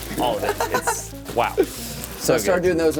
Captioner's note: laughing